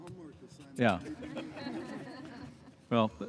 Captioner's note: laughter